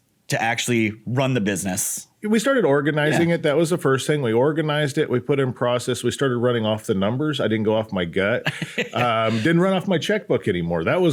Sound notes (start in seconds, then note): 8.4 laughs